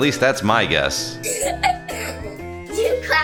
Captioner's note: laughing